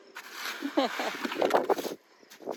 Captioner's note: laugh